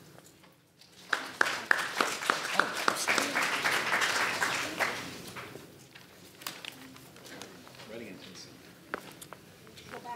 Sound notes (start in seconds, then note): 1.0 audience applauds